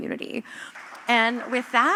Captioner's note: applause